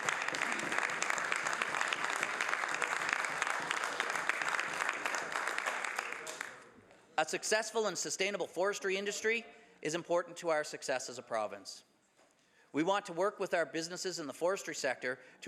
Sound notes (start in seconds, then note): 4.1 some Applause